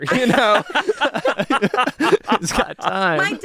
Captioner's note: everyone laughs